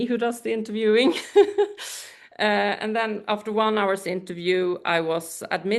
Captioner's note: laughs